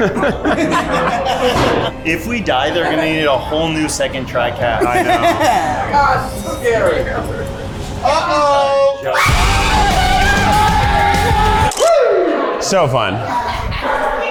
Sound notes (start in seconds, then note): 0.0 laughter; 8.1 group screaming